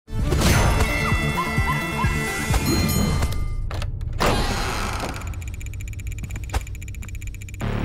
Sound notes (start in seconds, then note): 0.5 music playing, screaming; 2.5 dinging; 3.6 door creaking